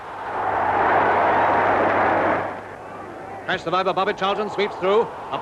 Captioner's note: crowd cheering